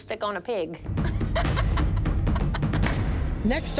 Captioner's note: laughs